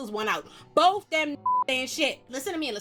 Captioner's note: beep